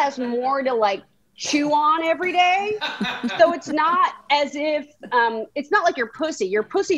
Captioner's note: bystander laughs